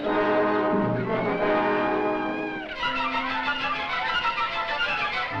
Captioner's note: monkey screeching